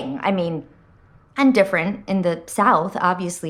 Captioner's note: none